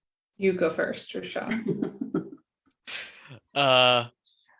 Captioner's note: laughs